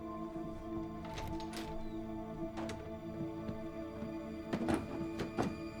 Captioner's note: door latch clicks